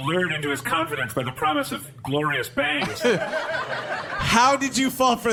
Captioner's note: audience and cast laughter